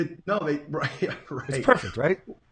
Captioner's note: laughs